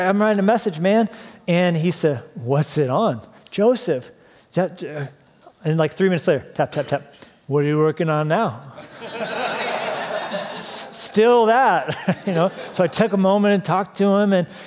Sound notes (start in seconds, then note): 10.4 laughter